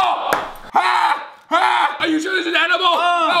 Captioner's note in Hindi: चिल्लाता है